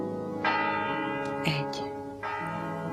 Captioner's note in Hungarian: harangütések